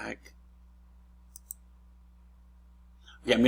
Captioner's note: clicks